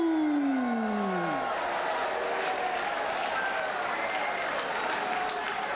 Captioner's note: spectators cheering and applauding